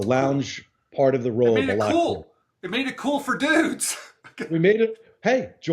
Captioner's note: laughs